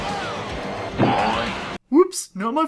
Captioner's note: Hanna Barbera splat-boing-sound-effect